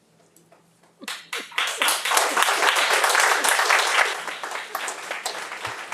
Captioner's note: audience applauding